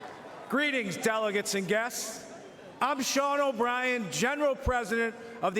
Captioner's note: cheering